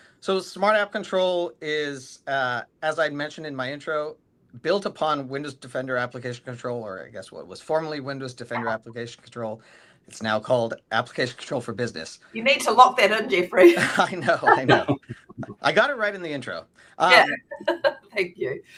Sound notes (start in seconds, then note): 13.3 laughing; 17.1 chuckling